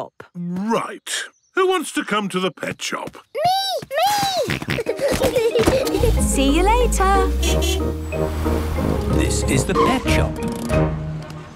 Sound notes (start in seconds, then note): 4.0 kids giggling; 4.0 snorting; 7.3 honking